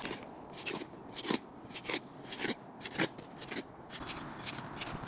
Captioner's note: cement scratches